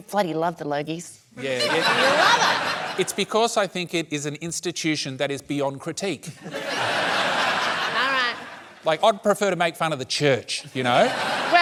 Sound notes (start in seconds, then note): 6.3 laughter